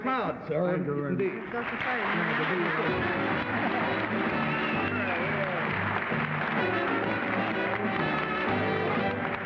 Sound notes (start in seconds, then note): 1.8 panelists murmuring; 3.3 applauding